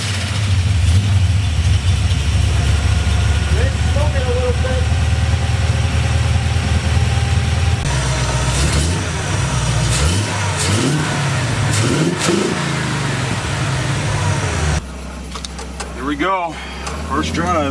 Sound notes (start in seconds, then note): 8.9 revving engine